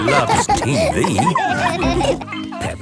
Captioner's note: all laughing